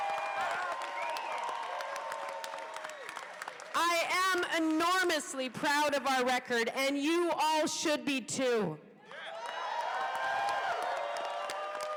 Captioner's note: cheers and applause